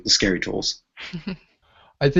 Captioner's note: chuckles